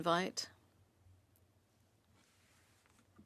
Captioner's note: speaking French